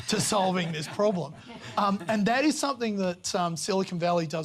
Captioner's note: laughter